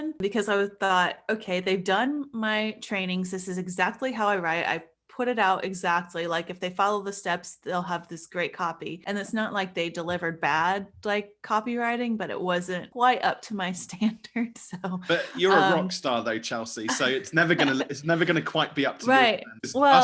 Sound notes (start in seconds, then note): 15.0 laughing